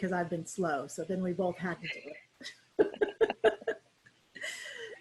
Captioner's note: laughs